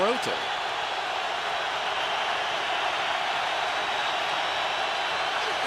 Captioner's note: cheering